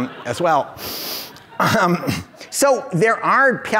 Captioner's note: audience laughs